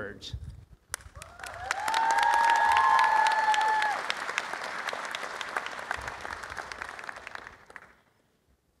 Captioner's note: applause